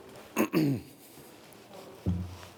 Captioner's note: he clears his throat